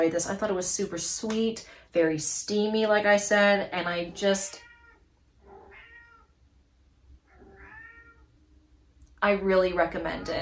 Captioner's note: cat meowing in background